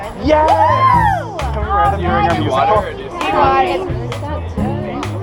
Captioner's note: yelling and cheering!